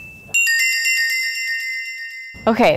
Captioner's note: bells tinkling